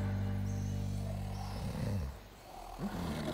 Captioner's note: snoring